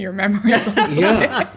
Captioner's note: laughter